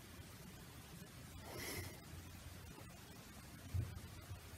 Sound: exhales

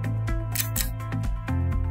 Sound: click

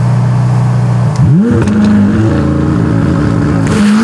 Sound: engines Revving

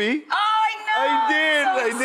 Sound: audience coos

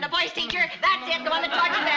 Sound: Lucy begins humming

